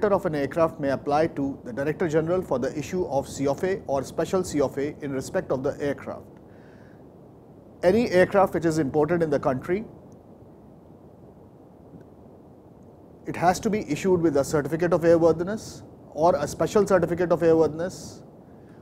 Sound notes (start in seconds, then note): 12.0 pause